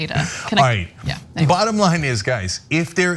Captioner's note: laugh